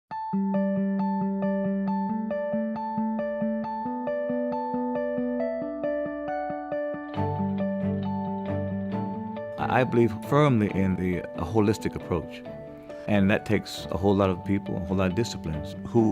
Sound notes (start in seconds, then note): 0.1 uplifting music; 9.6 voiceover